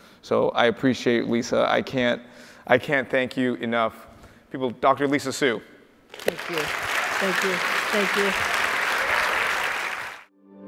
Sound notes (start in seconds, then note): 6.1 audience applauds